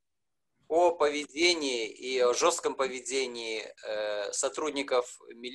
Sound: speaking foreign language

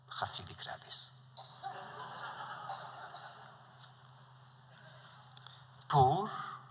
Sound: laughter

